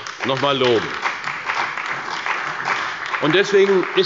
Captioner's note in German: Beifall bei der CDU und dem BÜNDNIS 90/DIE GRÜNEN